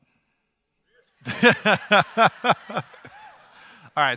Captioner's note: audience laughter